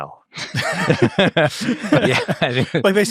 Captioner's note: all laughing